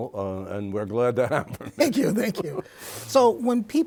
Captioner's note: laughs